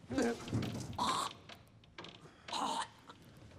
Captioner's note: vomits, retches